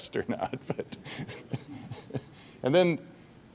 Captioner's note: laughing